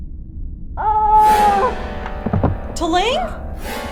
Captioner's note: T'Ling howling in pain, body hits floor